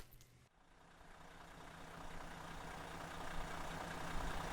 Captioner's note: engine rumbles